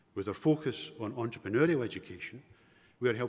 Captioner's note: none